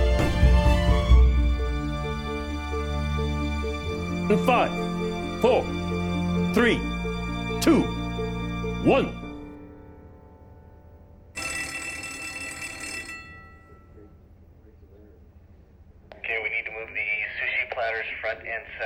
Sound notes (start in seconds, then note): 11.3 bell rings